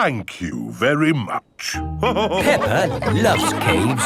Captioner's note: all laughing